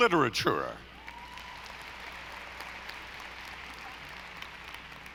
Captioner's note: audience applauding